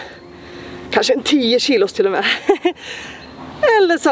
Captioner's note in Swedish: skratt